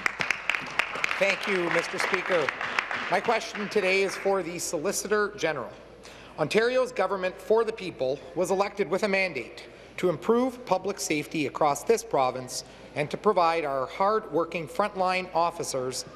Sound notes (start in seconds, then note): 4.1 applause